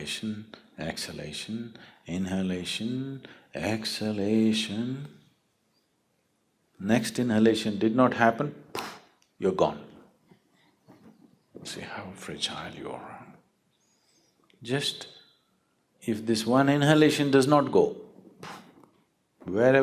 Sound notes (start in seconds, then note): 8.7 clicks fingers